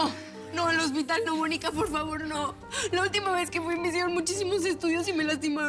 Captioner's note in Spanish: sollozos